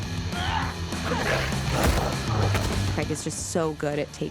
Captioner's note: snarling